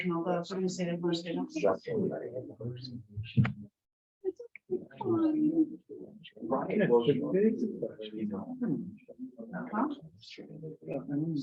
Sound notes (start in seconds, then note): 4.7 members chattering